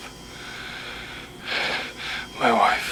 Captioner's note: breathing heavily